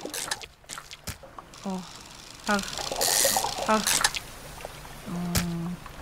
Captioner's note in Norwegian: Lyden av en snelle